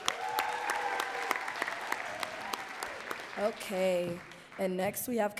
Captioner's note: audience cheering and clapping